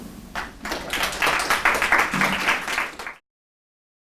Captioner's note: audience clapping